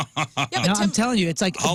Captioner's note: laughing